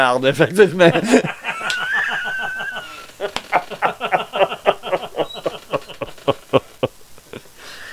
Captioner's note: laugh